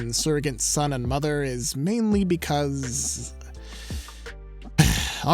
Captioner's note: inhales sharply